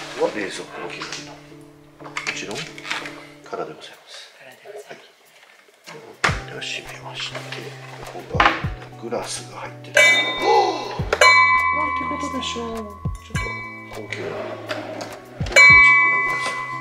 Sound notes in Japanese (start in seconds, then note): 9.9 グラスとグラスが当たった音